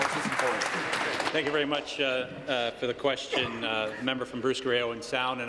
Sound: applause

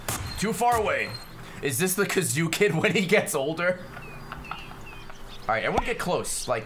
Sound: laughs

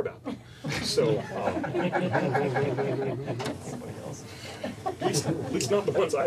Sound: laughter

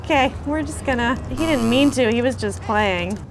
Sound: negative buzzer

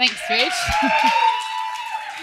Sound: applause; cheering

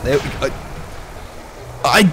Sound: tiny choke

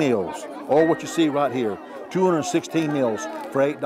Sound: speaking foreign language

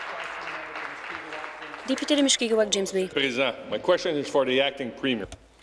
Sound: applause

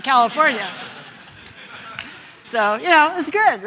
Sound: members of the audience laughing

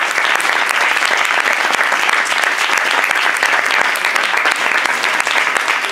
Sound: applause

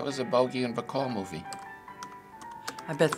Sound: typing

